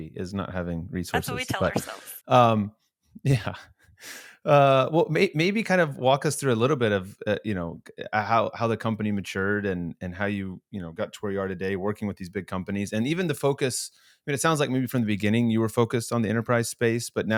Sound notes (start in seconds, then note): 3.2 chuckling